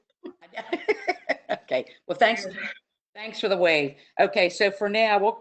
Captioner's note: laughs